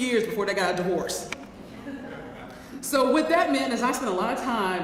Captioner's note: laugh